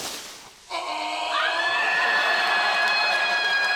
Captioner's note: shrieks joyfully